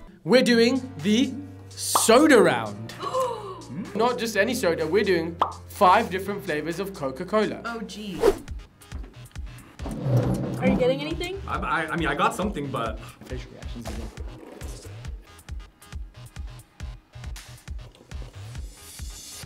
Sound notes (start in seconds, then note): 3.1 gasps; 9.8 chair scrapes on floor